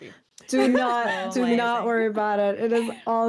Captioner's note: laughs